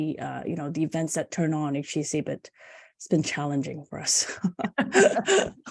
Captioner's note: laughter